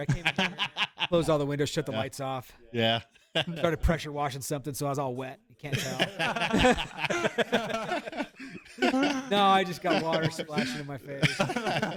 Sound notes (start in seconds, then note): 5.7 laughter